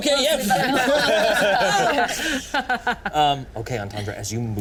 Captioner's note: all laughing